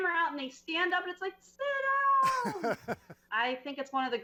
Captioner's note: laughs